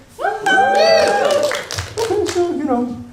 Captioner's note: enthusiastic response from audience